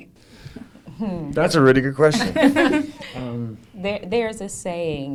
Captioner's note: laughs